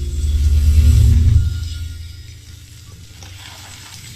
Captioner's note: ominous sound